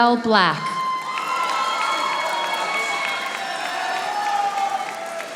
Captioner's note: audience applauding